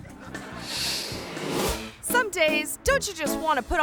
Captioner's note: audience laughing; graphics whooshing